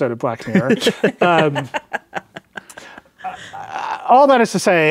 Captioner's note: laughing